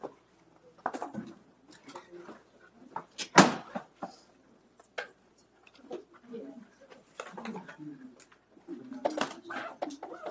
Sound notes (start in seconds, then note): 1.9 background chatter